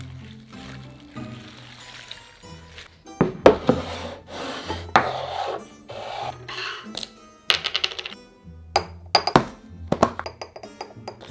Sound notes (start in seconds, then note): 5.0 bowl sliding; 10.2 spoon clanking